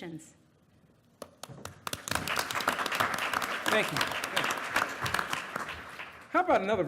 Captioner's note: applause